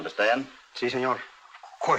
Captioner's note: in spanish